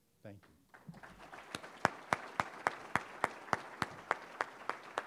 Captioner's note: audience applauding